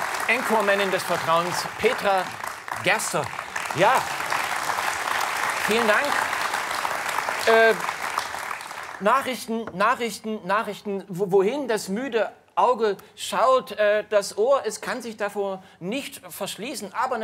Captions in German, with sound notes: Und Nachrichtensprecherin Petra Gerster. *Applaus* Vielen Dank. Nachrichten, wohin das müde Auge schaut. Das Ohr kann sich davor nicht verschließen.